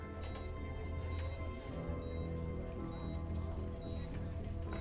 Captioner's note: monitor beeping